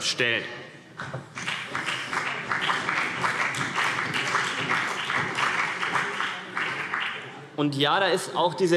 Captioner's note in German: Beifall CDU und BÜNDNIS 90/DIE GRÜNEN